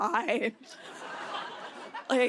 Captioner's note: laughter